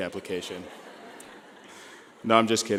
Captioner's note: laughing